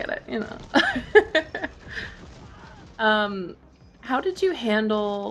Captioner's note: laughs